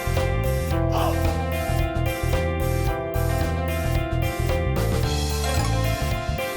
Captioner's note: haha